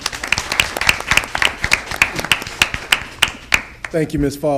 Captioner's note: audience applauding